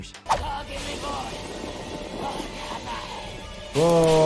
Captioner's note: Marta growls; eerie music